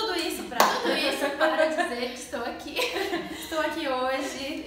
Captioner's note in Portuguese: risos